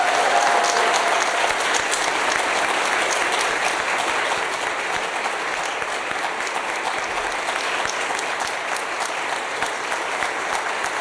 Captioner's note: applause